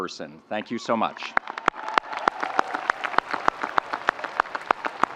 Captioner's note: audience applauding